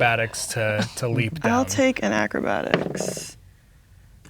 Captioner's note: rolls dice